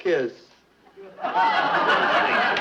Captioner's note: audience laughing